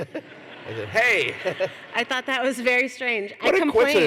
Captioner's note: laughter